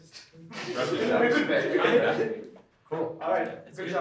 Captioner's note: laughter